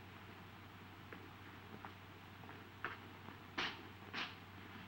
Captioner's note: footsteps thudding